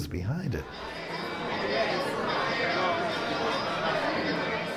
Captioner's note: crowd murmuring